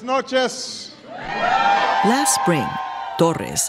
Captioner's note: cheers and applause